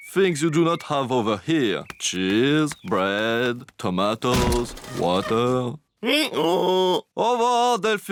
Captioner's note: brays